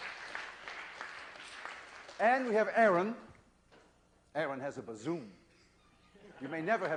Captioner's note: applause